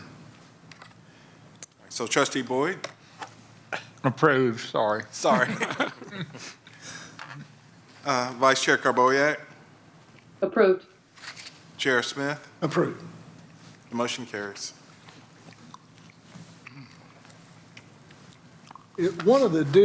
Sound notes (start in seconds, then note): 5.3 laughter